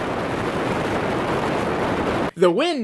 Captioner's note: wind noise